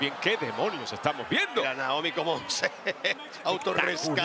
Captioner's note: laugh